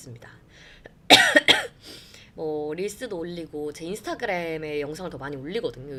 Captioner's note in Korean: 기침